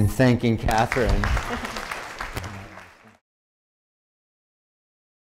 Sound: applause

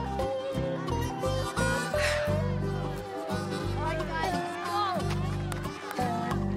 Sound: exhales

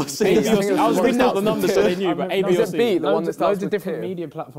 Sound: crowd mumbling

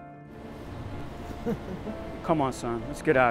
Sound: son laughs

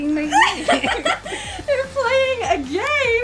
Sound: laughter

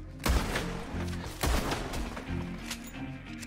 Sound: gunshots

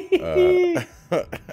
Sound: laugh

